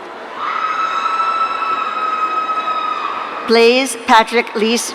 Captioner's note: audience cheering